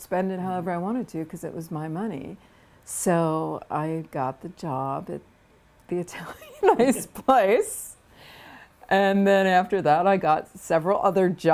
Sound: laughter

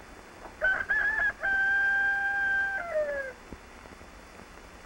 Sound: rooster crowing

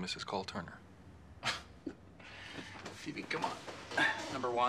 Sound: laughs

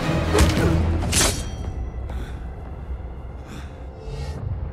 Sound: sword piercing

